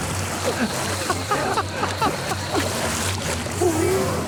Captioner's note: splashing; laughter